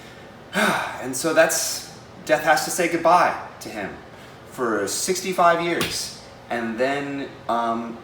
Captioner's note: sighs